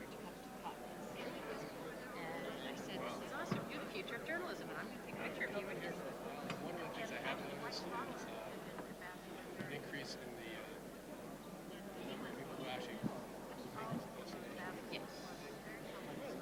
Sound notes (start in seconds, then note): 9.1 overlapping chatter